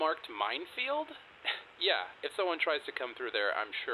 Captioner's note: scoff